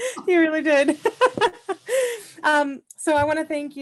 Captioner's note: laughing